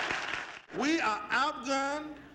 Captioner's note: crowd applauds